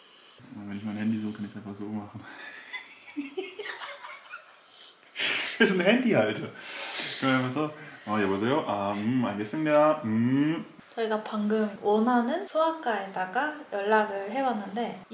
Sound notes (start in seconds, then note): 2.4 laughing